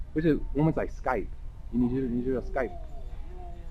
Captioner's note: mandarin